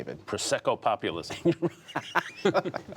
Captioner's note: laughter